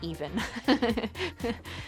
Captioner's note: laughs